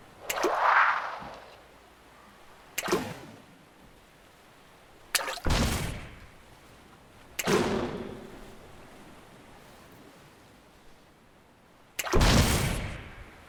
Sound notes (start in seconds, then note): 0.2 splash, magical whoosh; 2.8 splash, popping sound; 5.4 splash, explosion and electric sounds; 7.3 small boom; 12.1 splash, explosion and electric sounds